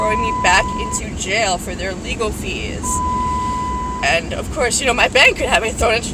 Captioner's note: vehicle screams